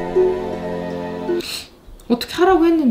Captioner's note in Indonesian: suara menarik ingus